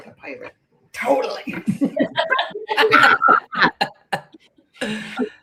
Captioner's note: laughter